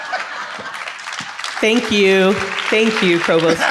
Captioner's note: audience applauds; audience laughs; laughs